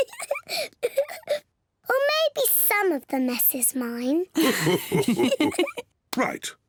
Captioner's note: giggles; gasps; all laugh